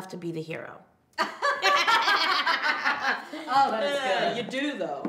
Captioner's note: both laugh